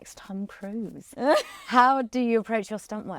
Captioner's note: laughs